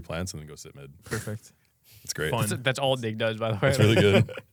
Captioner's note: laughs